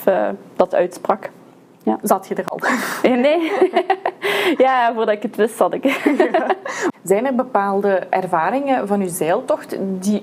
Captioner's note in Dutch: lachen